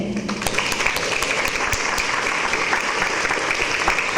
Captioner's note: audience applause